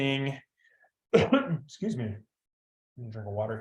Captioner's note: coughs